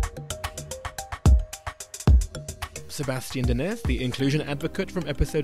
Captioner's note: voiceover